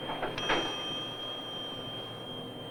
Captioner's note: bell ringing